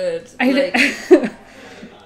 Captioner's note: laughs